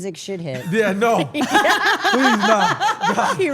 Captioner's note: laugh